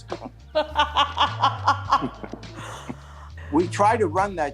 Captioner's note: both laugh